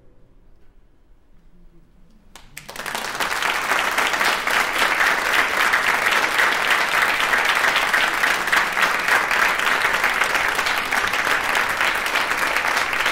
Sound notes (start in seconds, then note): 2.3 applause